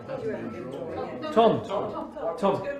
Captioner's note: crowd chattering